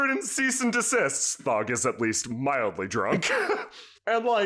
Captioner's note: laughs